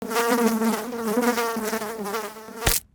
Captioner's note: fly buzzing; fly splatting